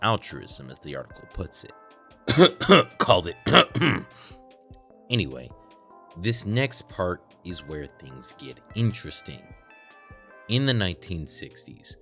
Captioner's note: cough